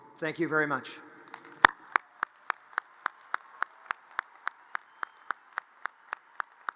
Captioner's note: audience cheers and applause